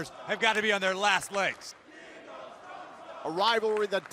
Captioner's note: crowd cheering